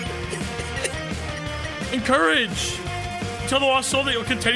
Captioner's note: laughs